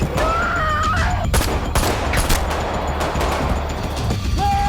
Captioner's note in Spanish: Disparos